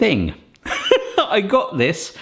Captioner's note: laughs